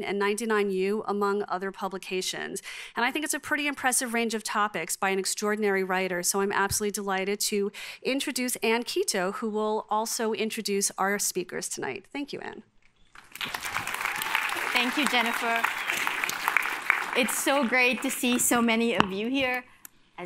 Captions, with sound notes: and 99U among other publications. And I think it's a pretty impressive range of topics by an extraordinary writer, so I'm absolutely delighted to introduce Anne Quito who will also introduce our speakers tonight, thank you, Anne. (applause) - Thank you, Jennifer. It's so great to see so many of you here.